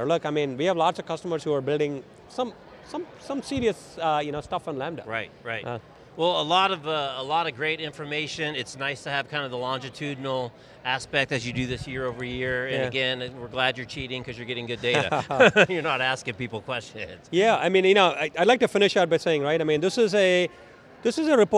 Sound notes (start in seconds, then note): 14.7 chuckles; 14.8 laughs